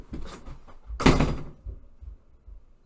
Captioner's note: door slamming